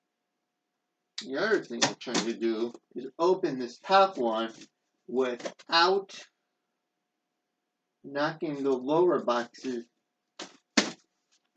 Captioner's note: tearing